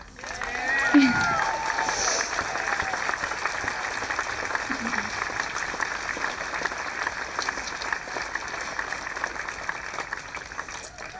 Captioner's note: audience applauding